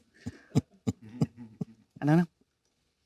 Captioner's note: Leonardo laughing